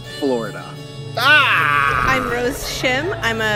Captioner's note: yells